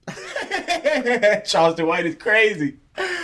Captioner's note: laughing